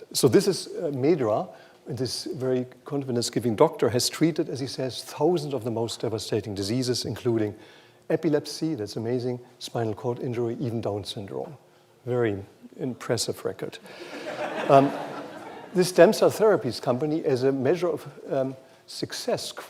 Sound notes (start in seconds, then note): 13.9 laughter